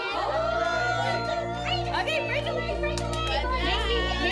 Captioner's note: excited chatting